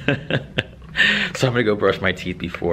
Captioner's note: laughter